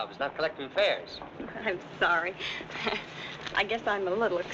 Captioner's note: chuckles